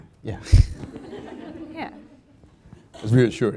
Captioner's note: audience laughing